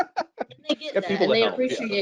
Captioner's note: laughs